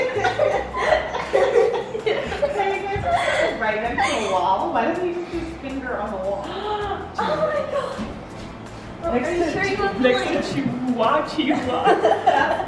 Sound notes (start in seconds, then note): 0.0 family laughs; 6.4 gasps; 11.5 laughs